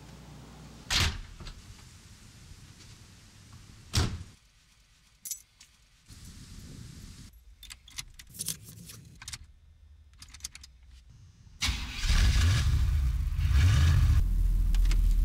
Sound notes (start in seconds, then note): 0.9 door slams; 3.6 car door slams; 7.4 keys jingle; 11.6 van starts up